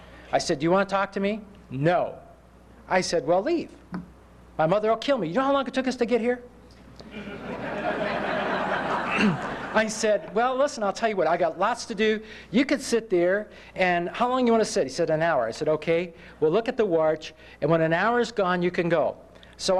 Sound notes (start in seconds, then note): 7.0 laughter